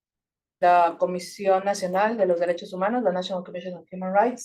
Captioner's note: speaking Spanish